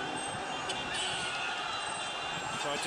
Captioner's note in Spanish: cánticos; bocina de automóvil